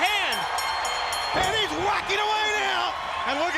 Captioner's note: bell ringing